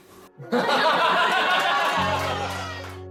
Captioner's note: laughter and applause